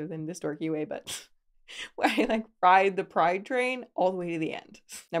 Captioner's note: laughs